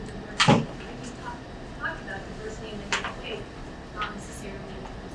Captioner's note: speaking away from mic